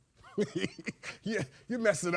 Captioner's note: laughing